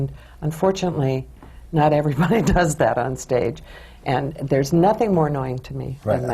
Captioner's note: laughs